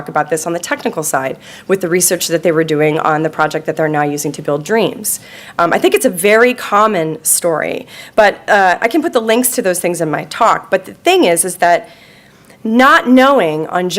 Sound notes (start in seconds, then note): none